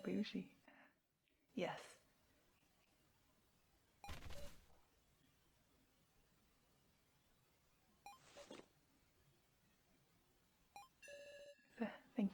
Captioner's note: sound of rustling fabric